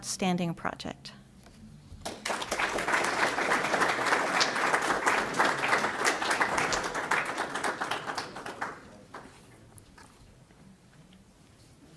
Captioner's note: applause